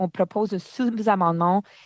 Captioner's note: speaking french